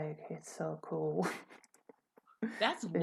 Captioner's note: laughter